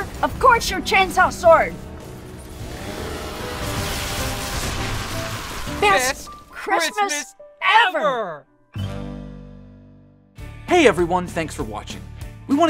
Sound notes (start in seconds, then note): 2.2 chainsaw roars